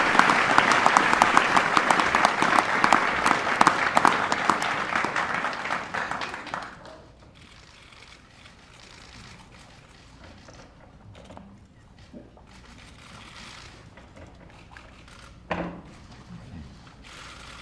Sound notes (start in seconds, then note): 4.7 applause